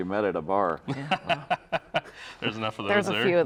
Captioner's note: all laughing